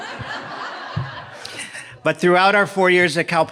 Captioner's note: audience laughing